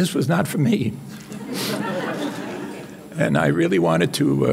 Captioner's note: audience laughing